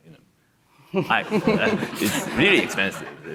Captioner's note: audience laughs